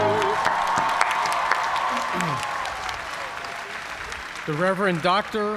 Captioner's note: song ends; cheers and applause